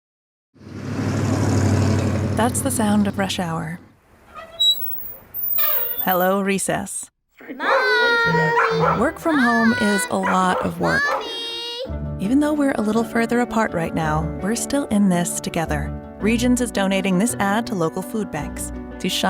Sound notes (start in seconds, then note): 0.6 engine rumbles; 4.2 squeak; 7.6 barking